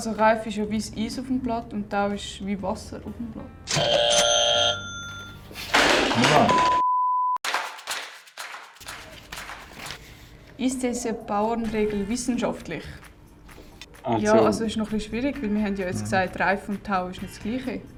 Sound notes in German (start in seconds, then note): 3.7 Buzzer; 4.8 Lächeln und ein Mikrofon fällt auf den Boden; 7.5 Rockige Musik